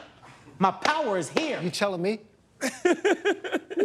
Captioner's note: laughs